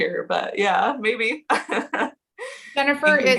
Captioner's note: chuckles